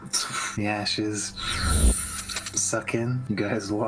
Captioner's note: shhhhhoopp; tshhh